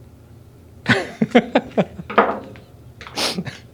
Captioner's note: laughs